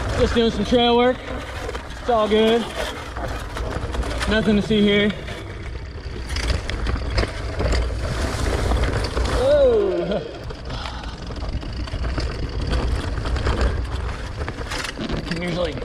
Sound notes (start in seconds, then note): 6.7 gear clicks; 10.9 sighs; 14.8 gear clicks